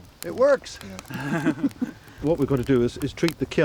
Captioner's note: group laughs